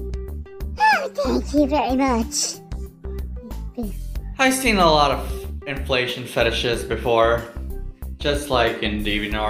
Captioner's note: talks in high pitch balloon voice